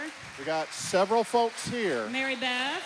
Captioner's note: applause